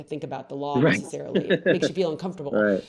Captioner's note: laughs